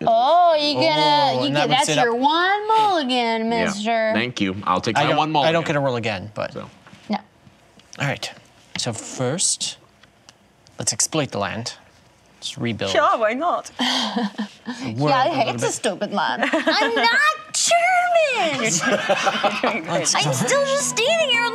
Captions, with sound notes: Oh, that's your one mulligan, mister. I'll take that one mulligan. I don't get to roll again. No. All right, so first, let's exploit the land. Let's rebuild. (imitates German accent) Sure, why not? (imitates German accent) Yeah, I hate the stupid land. I'm not German! (laughter) I'm still just standing here